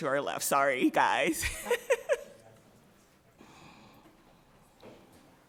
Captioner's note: President laughs